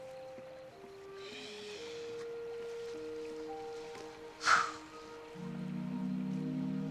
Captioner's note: exhales